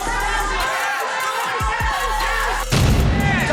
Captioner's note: screams